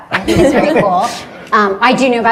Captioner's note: everyone laughs